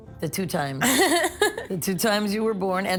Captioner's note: laughing